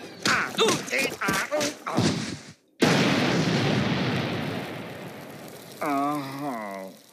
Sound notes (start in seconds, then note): 2.8 kaboom!; 5.8 Squidward moans in pain